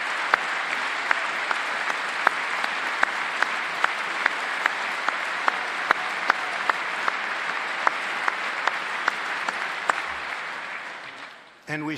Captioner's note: applause